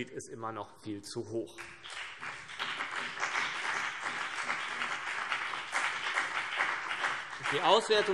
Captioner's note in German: Beifall BÜNDNIS 90/DIE GRÜNEN und vereinzelt CDU